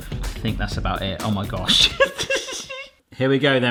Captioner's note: laughing